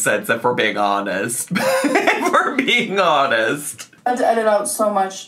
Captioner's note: laughs